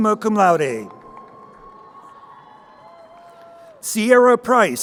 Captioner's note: crowd cheering